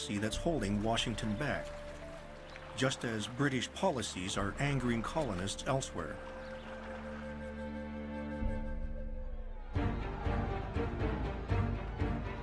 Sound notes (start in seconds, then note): 9.6 crowd shouting